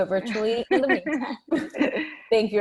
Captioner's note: laughs